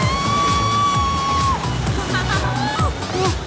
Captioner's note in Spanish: Gritos